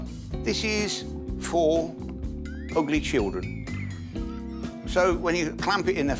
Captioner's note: laughing